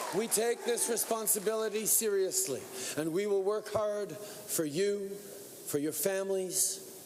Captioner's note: cheering